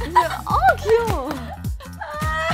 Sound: clapping

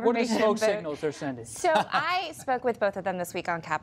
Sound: laughter

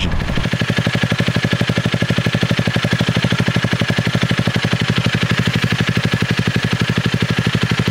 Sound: exhaust pulses

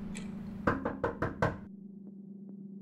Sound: knocking on door

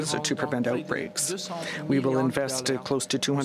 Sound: speaking french

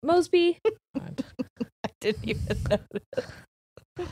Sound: laughing

